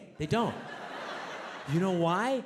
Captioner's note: audience laughs